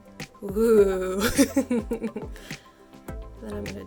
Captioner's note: laughs